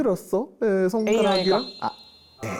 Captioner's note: encouraging tone to confess and be free